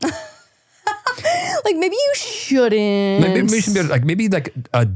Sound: laughing

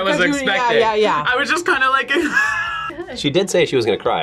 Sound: laughs

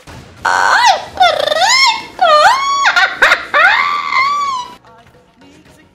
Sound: evil laugh

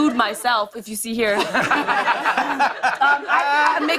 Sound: laughter

